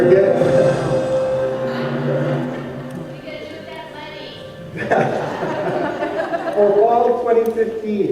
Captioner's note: laughter